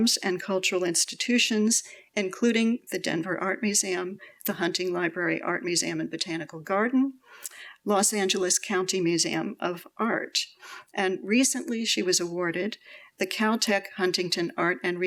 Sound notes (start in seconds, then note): none